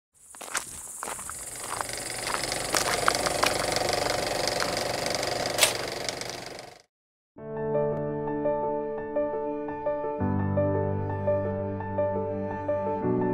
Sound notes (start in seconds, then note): 1.4 film strip running; 7.6 serious music